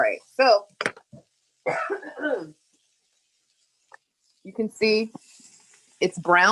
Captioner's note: coughs